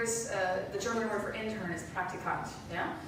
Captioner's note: speaking German